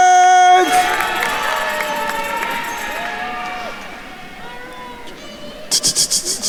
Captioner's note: attendees cheering and applauding